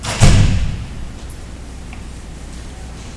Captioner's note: door closes